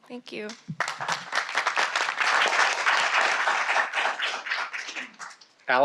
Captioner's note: applause